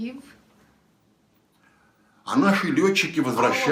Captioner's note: foreign language